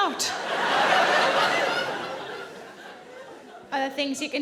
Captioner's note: audience laughing